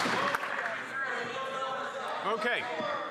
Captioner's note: applause